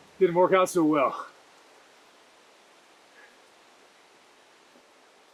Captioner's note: rain trickling in distance